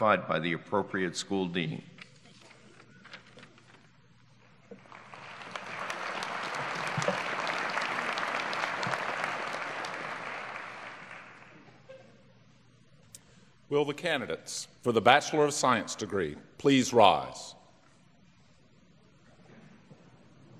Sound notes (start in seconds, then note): 4.8 applause